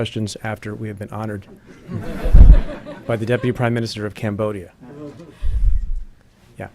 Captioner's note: laughing